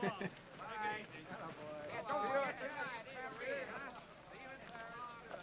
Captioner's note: men chattering